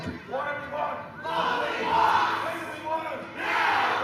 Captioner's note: crowd